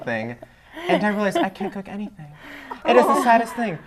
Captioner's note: laughter